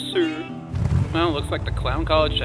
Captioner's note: Warthog engine revs up